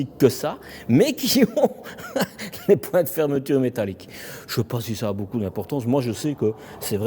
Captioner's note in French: rires